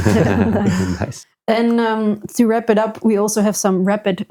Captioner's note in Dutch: lacht